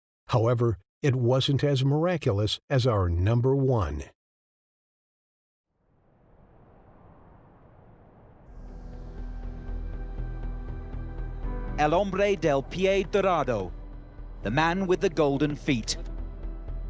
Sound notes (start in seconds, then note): 8.4 ambient music; 11.9 commentator speaks in foreign language